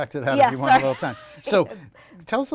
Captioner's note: laughter